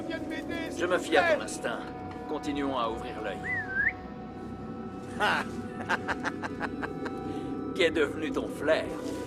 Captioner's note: laughs